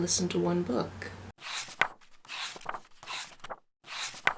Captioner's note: pages turning